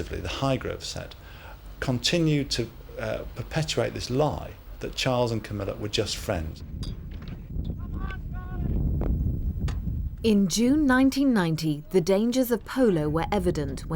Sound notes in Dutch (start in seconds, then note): 7.8 man mompelt